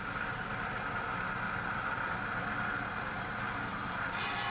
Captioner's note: saw whirring